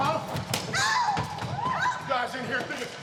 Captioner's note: person screaming